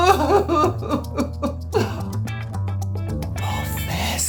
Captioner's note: sobbing